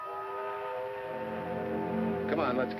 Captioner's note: train whistling